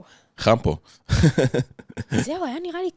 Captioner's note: laugh